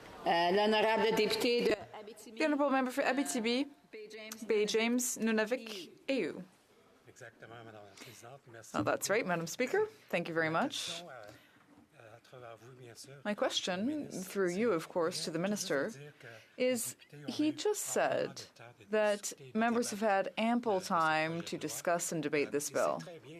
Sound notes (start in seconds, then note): 5.3 speaking French